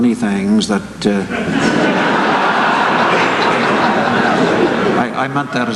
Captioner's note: laughter